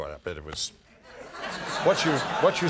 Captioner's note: crowd laughing